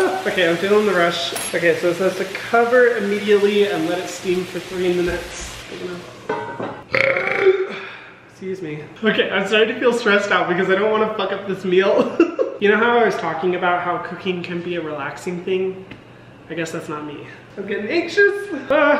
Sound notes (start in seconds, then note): 6.8 belching; 12.2 laughs